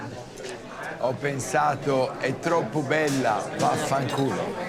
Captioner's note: Dario speaking Italian